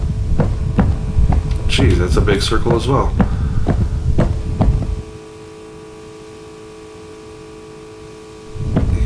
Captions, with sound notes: Geez, that's a big circle as well. [footsteps]